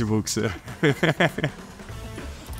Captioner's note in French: rires